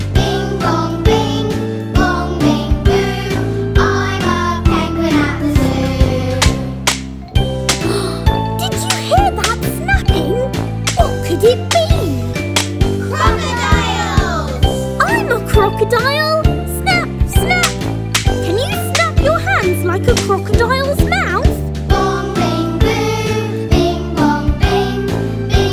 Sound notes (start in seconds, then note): 6.8 snapping nosie; 7.8 gasps; 21.4 singing